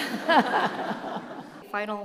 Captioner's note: group laughing